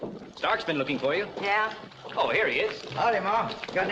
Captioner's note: none